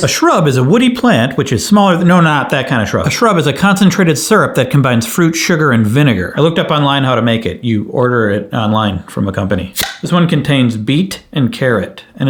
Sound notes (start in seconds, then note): 9.7 bottle popping